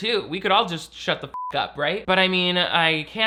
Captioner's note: beep